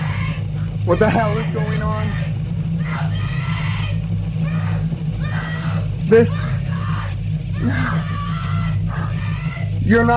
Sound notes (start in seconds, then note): 6.3 screaming; 7.6 gasping